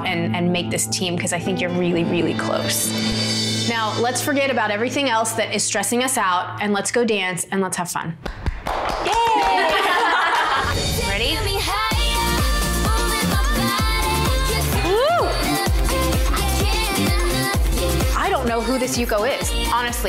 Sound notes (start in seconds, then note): 1.6 dramatic music; 8.2 clapping; 9.1 cheerleaders laugh